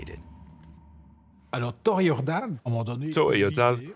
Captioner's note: man speaking French